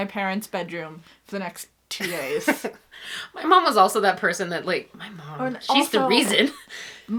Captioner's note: laughs